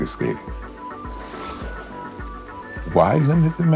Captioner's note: skates scraping ice; pensive music